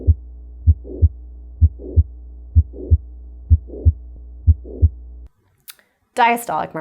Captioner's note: heart beating